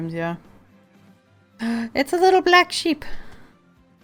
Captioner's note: gasp